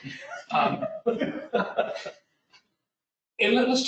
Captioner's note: laughter